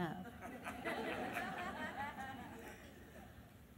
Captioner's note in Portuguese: risos da plateia